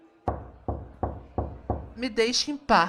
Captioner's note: knock on the door